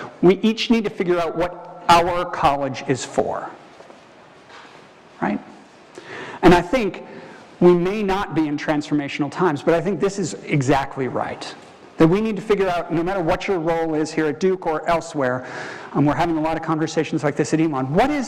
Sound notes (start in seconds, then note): none